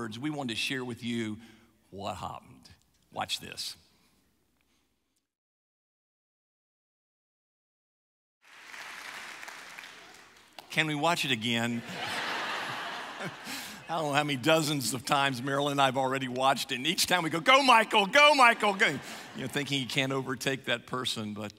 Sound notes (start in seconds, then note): 8.4 audience applauds; 11.7 audience laughs